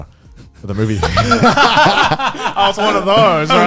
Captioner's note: hosts laughing